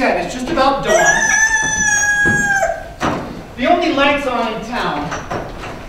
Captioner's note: rooster crows